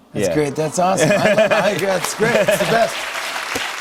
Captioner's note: applause